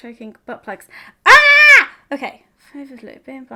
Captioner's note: screaming